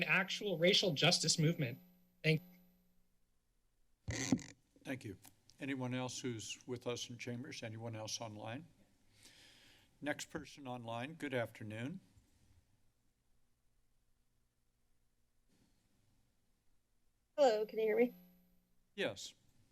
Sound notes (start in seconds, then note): 4.1 mic crackling; 12.5 silence